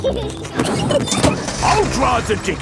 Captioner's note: peppa and george laughing